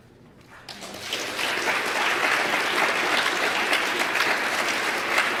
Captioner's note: applause